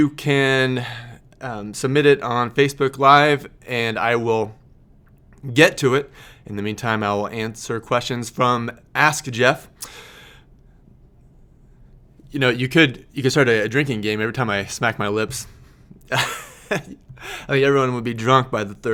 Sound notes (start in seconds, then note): 9.8 lips smacking; 16.0 laughing